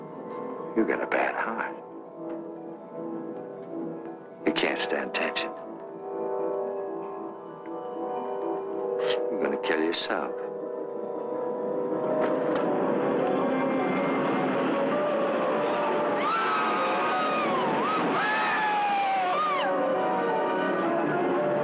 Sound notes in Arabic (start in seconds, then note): 16.1 صراخ من لعبة الرولر كوستر